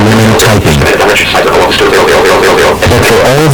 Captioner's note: computer-generated voice speaking rapidly